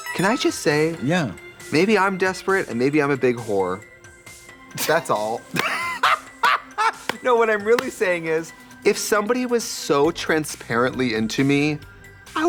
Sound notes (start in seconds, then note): 5.4 both laugh